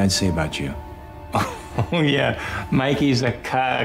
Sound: chuckles

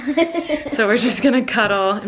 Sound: laughs

